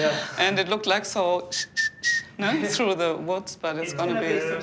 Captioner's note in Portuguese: assobios